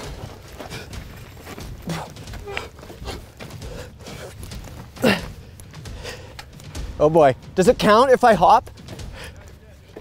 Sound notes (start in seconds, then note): 2.0 panting; 4.9 huffs